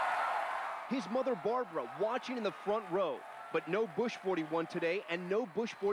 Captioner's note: cheers and applause